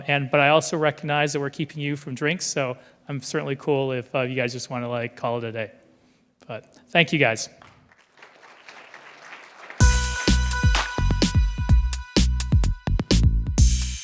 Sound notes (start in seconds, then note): 7.6 applause